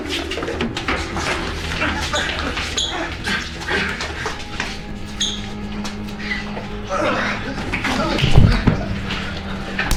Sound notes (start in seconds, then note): 6.4 guys laughing